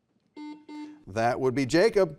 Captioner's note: buzzer buzzes